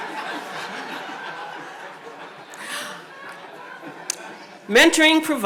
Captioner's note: audience laughs